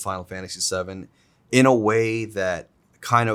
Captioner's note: none